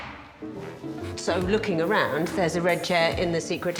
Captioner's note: circle slapping on floor; playful music